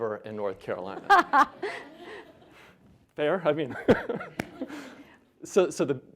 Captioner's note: Dr. Cohen laughing